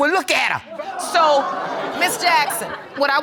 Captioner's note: audience laughs